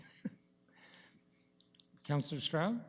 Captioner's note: chuckles